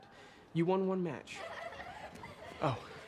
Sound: girls giggling

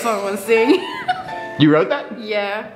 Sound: interviewee laughs

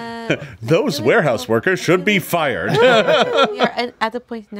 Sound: laughs

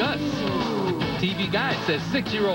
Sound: all go "oooh!"

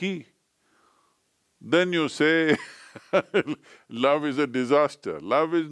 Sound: laughs

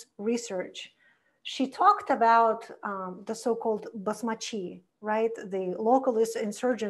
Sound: foreign language

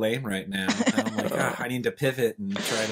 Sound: laughing

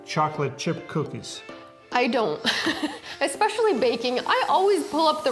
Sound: laughing

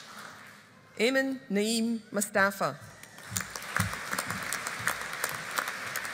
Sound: audience applauding

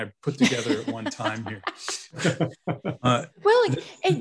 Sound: both laughing

